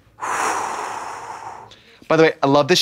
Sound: Kaya exhales

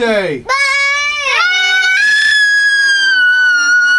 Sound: yells

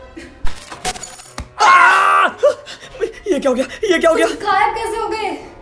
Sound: both shout aahh

